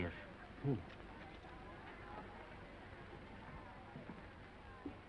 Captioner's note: crew chattering